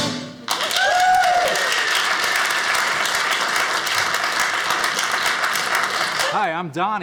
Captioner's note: audience cheering